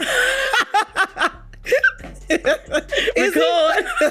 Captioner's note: laughing